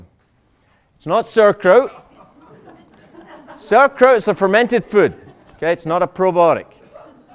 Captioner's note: laughter